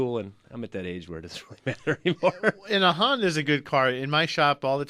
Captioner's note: laughs